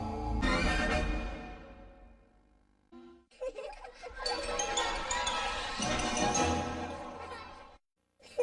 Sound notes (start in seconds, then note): 0.4 music ends in a music snippet; 3.2 laughter and music resuming